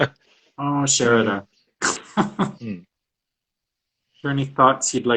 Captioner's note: laughs